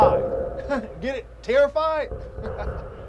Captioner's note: chuckles